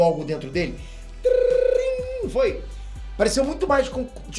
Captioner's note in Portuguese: trrrinn